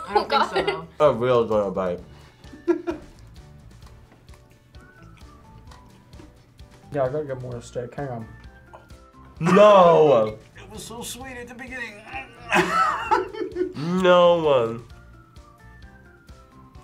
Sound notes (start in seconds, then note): 2.6 laughs; 11.9 laughs